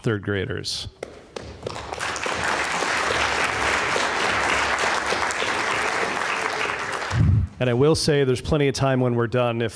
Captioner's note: applause